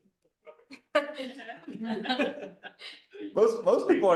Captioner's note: laughter